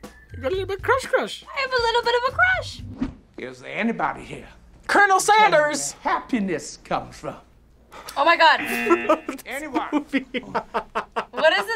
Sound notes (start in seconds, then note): 8.5 buzzer; 11.1 laughs